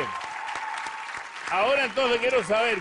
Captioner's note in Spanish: Aplausos